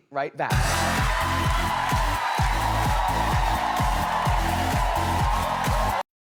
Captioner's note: energetic music; audience cheering